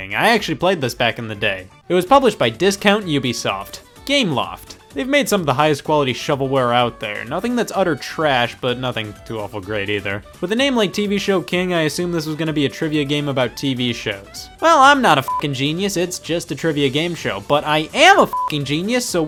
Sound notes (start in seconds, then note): 15.2 beep; 18.2 beep